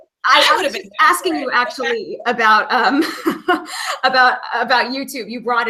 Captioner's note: laughing; laughing